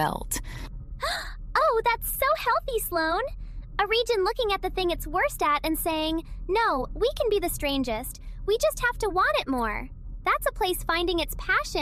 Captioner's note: gasp